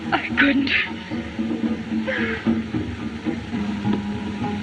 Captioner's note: sobs